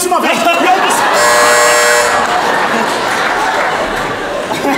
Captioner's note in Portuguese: campainha